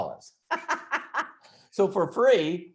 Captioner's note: laughs